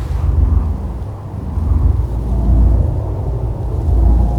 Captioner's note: wind howling